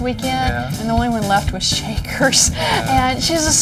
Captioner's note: laughs